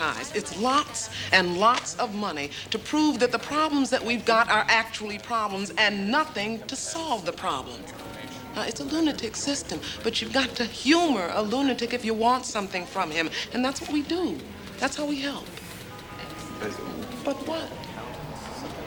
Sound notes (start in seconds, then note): 16.5 Gary stammers